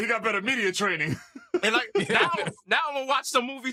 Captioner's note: laughs